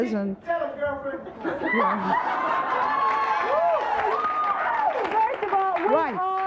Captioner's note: audience applauds